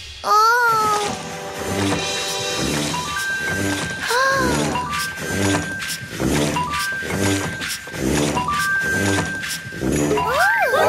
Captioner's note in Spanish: Sonido de maquina